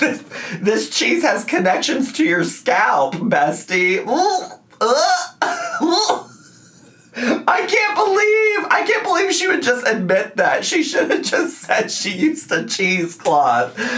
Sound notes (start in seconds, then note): 4.7 gags